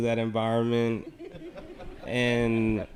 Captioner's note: audience laughing